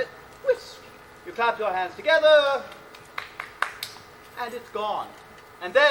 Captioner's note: clapping